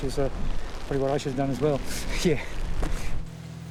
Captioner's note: chuckles